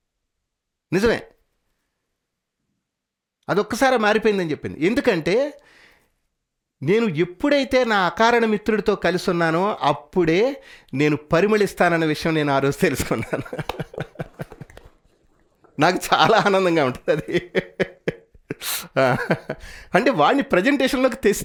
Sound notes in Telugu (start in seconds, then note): 12.9 నవ్వు